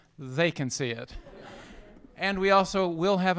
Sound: laughter

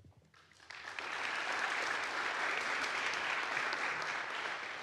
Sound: audience applauds

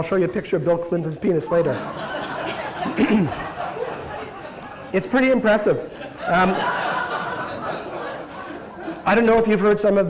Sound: laughter

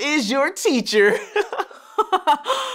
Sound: man giggles

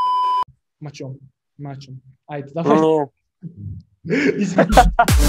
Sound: obnoxiously mumbling and stuttering

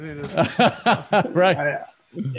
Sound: laughter

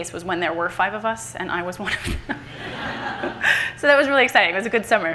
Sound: everyone laughs

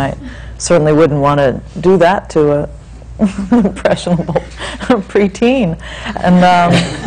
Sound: laughs

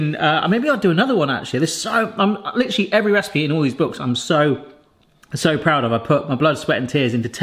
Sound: none

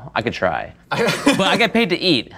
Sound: laughs

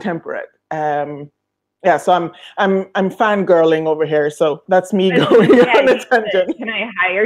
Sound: laughing

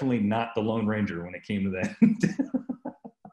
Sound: laughing

